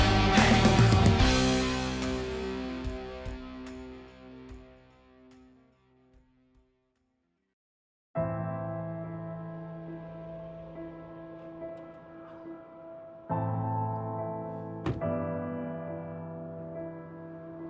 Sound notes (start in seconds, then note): 0.0 electronic music fading; 5.3 silence; 8.2 soft piano music playing; 14.8 car door closes; 15.6 soft piano music playing